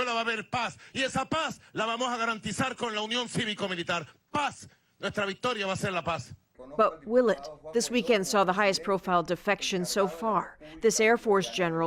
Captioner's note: speaking foreign language